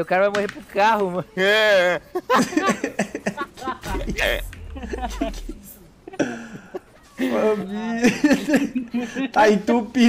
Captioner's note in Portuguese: risos